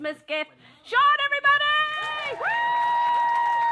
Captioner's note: applause